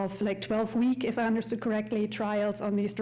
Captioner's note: none